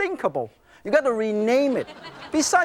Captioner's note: crowd laughs